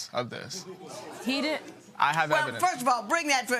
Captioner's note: audience murmuring